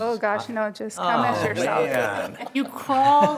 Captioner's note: everyone laughs